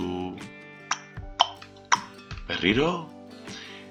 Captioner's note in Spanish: Tic, tac